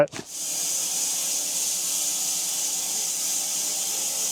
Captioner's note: saw buzzing